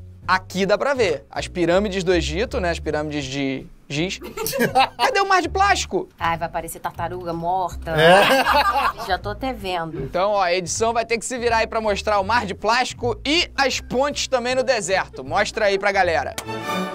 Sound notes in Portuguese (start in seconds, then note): 4.2 risadas; 7.9 risadas; 15.0 música de orquestra